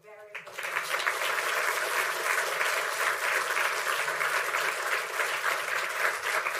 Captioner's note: applause